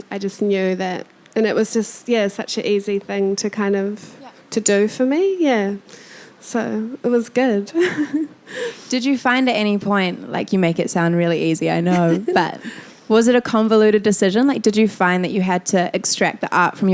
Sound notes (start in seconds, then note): 7.8 chuckling